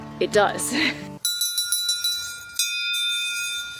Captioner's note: bell ringing